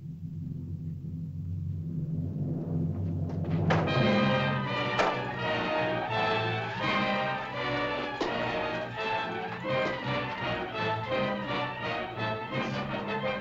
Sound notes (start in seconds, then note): 3.5 suspenseful music; 4.9 staffs bang; 10.0 suspenseful music